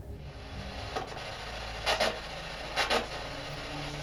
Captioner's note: radio static